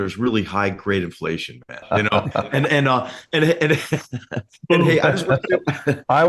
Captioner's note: laugh